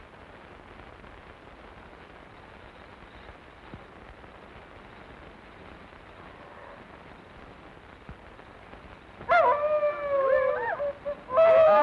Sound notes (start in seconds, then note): 7.6 wolves howling